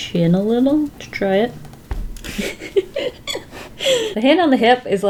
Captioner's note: laughs